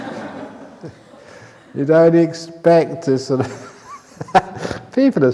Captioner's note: laughter; laughs